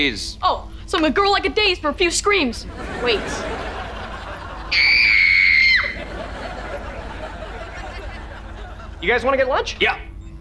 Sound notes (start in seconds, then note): 4.7 screaming